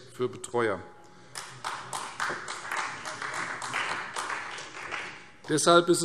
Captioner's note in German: Beifall Freie Demokraten